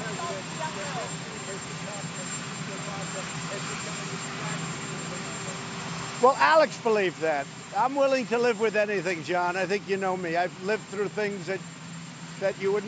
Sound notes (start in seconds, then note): 3.6 reporters shouting questions